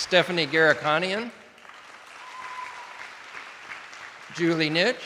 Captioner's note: attendees applauding